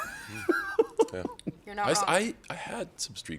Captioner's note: chuckles